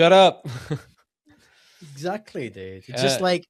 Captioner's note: laughs